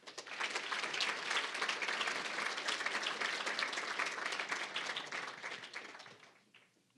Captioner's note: applause